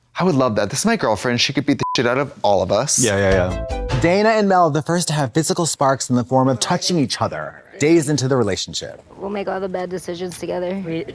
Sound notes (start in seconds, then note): 1.8 beep; 3.0 synth bop